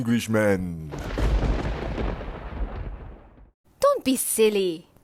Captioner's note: thunder